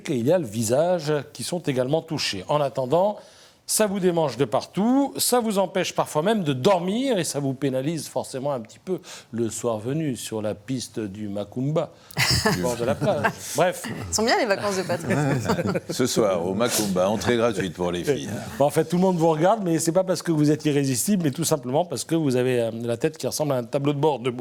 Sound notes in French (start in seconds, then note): 11.7 rires